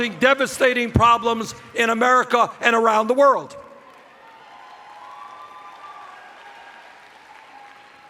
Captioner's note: cheers